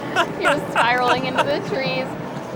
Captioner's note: laughs